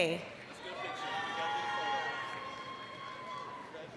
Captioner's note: applause, cheering